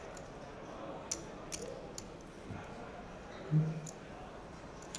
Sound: chips click

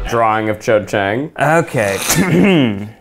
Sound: laughs; clears throat

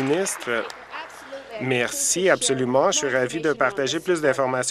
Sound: applause

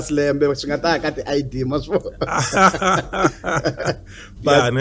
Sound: laughs

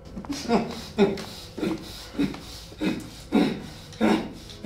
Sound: man grunting

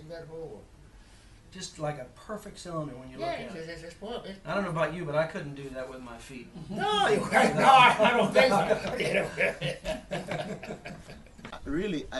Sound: more Chatter and laughter

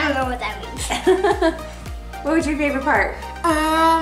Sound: laughs

